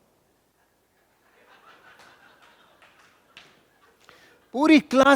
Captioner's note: laughing